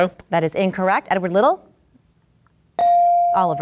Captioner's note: bell dings